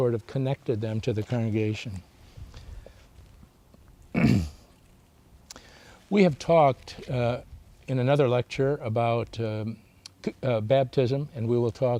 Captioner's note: clears throat